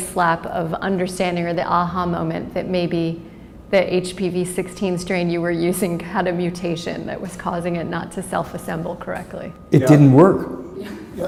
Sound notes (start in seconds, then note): 10.8 chuckle